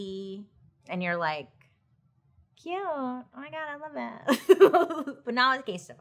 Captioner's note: laughing